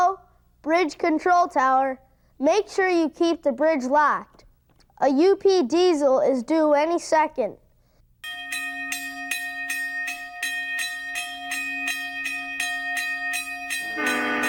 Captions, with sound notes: Hello, Bridge Control Tower, make sure you keep the bridge locked. A UP Diesel is due any second. (bell clanging)